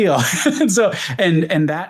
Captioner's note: laughs